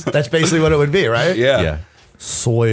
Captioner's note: laughter